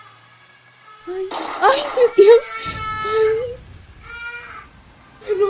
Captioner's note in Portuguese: Uma nova sequência de tiros é ouvida e Jéssica se desespera